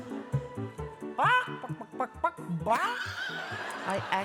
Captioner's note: making chicken sound effect